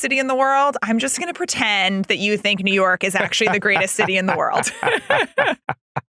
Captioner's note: laugh